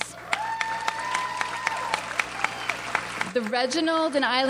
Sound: audience applauds

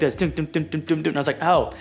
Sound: mimics drum beats

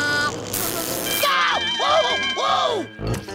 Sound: screaming

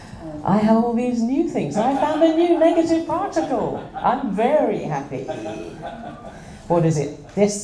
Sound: laughter

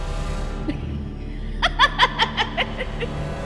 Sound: laughs

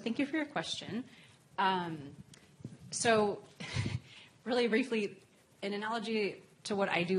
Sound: laugh

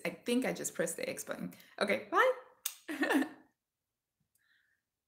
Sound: kiss

